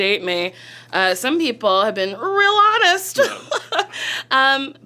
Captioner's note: laughs